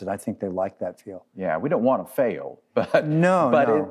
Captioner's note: laughs